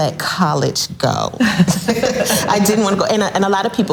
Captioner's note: laughs loudly